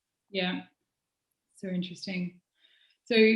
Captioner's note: none